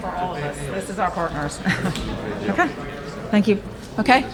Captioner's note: laughs